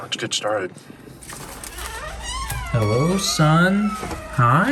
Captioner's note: door creaking